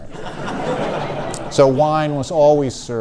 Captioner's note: audience laughs